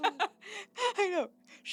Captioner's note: laughing